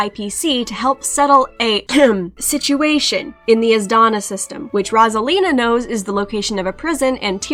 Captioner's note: ahem